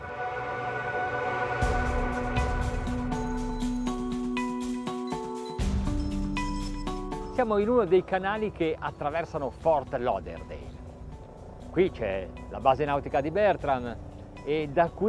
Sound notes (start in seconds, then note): 0.0 contemplative synth music; 7.4 speaking in foreign language